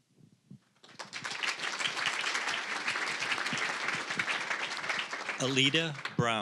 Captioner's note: applause